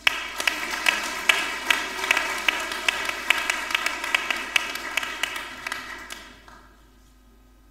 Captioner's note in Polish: oklaski